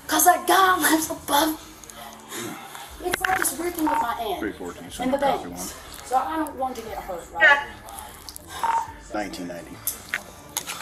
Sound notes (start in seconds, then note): 7.4 officer On Radio